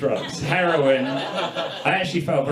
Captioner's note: audience laughs